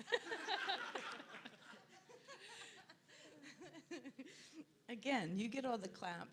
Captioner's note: audience laughs